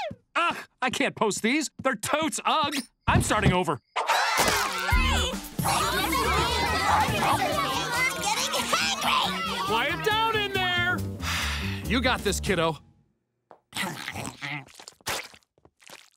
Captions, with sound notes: Uh, I can't post these. They're totes ug. I'm starting over. [screaming] [arguing] I'm getting hangry! Quiet down in there! You got this, kiddo.